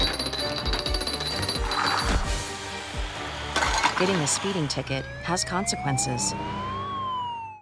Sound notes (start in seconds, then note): 0.3 SFX: Domino effect sound; 1.9 SFX: Clanking sound, car speeding; 3.5 SFX: Cans get knocked down; 6.6 SFX: Siren